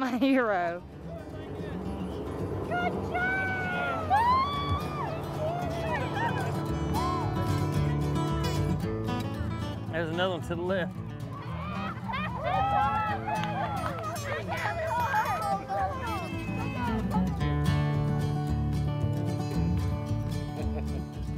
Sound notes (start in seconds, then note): 0.2 women cheering; 3.1 guitar music; 8.6 all cheering and clapping; 12.9 guitar music continues